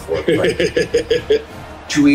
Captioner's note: laughing